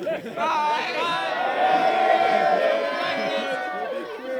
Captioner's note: cheering